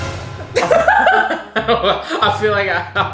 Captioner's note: dramatic music; both laughing